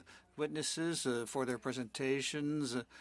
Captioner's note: speaking French